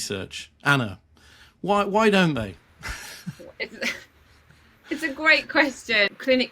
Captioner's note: chuckling